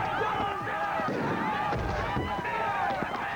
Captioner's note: gunshot